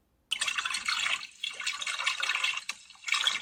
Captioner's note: water gurgles